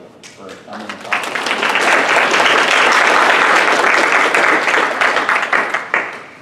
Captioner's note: clapping